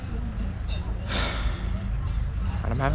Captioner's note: sigh